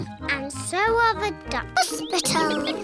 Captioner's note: quacking